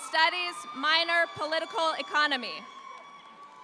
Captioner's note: audience applauding